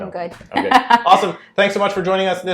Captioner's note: laughs